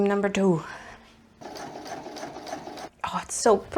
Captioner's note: sewing machine noises